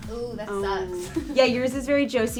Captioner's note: laughs